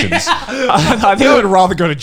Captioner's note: laughing